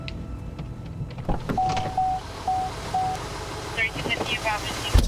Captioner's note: beeping